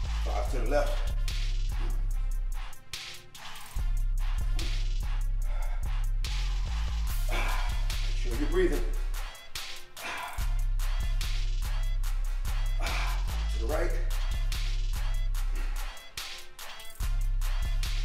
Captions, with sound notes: Five to the left. (hip-hop music) Make sure you keep breathing. (exhales) (exhales) To the right. (hip-hop music)